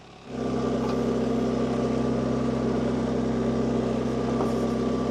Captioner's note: forklift rumbling